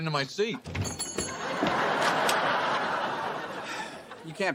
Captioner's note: laugh track